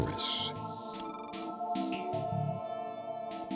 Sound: beeps

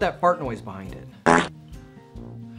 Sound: fart noise

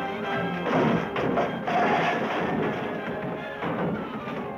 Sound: furniture clattering

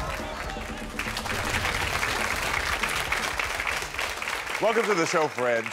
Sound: audience applauding

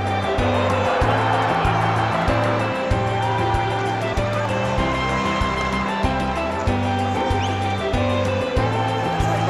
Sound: crowd cheering

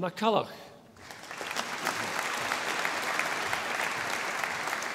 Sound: audience applauding

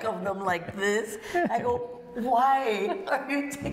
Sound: laughter; laughter

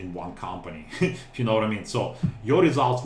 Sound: chuckle

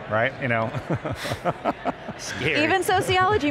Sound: laughs

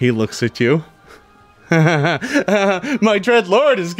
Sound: laughing

